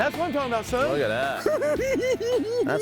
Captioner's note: cackling